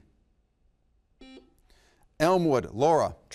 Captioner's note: buzzer beeps